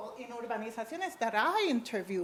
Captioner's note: speaks a foreign language